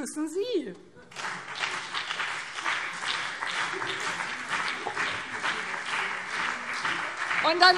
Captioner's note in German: Beifall BÜNDNIS 90/DIE GRÜNEN und CDU